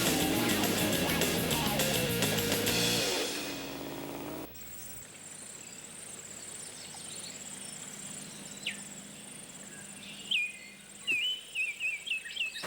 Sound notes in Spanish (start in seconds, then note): 4.5 pássaros cantando